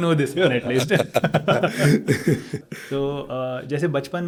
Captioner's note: laughing